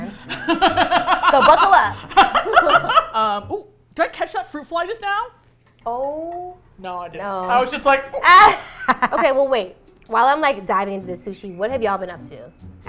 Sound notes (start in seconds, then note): 0.1 laugh; 0.1 laughs; 8.1 laughs